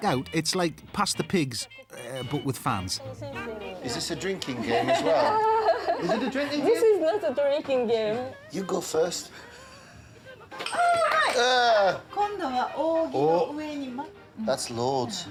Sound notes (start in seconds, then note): 4.3 giggles; 11.7 speaking Japanese